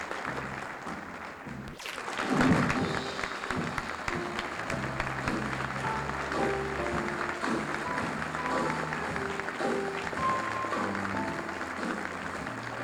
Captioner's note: applause, music